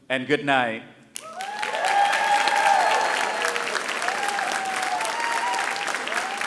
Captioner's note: audience cheering and applauding